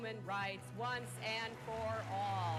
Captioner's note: applause